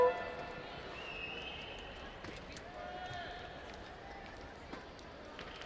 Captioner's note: cheers and applauds